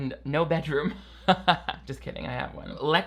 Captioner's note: laughs